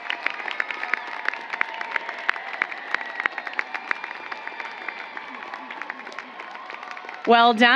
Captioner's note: applause